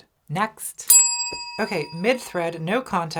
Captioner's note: bell rings